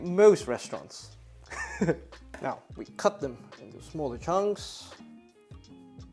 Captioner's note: chuckles